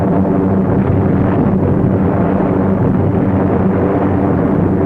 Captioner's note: bombs exploding